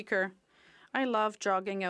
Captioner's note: speaking French